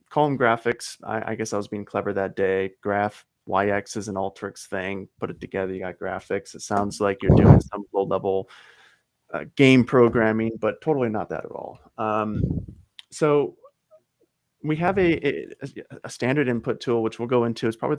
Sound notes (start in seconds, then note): 7.3 chuckles